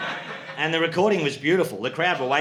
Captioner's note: audience laughing